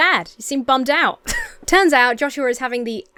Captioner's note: Emma chuckles